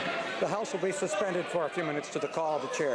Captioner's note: chanting